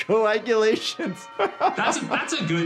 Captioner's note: laughing